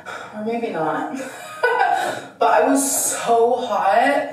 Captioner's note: laughing